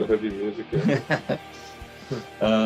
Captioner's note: Смех